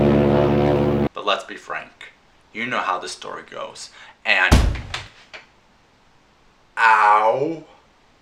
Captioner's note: horn; hit